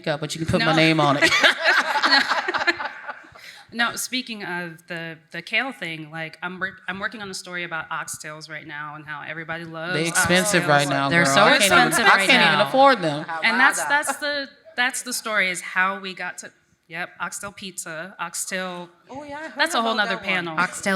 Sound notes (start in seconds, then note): 0.6 laughs